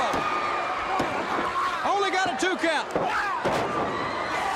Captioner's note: crowd cheering